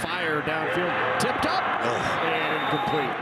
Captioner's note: groans; referee blows whistle